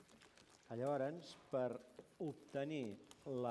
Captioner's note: non-english speech